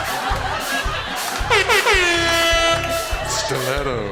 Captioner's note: vuvuzela blasts